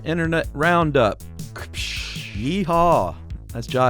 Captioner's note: imitating whip cracking